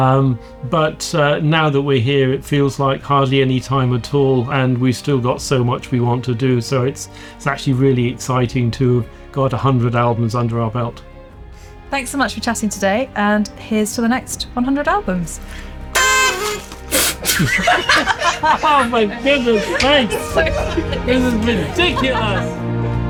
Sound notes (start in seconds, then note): 15.9 doot